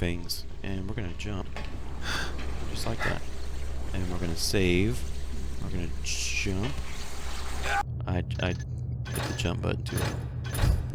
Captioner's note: laughs